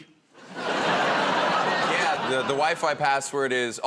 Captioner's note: laughter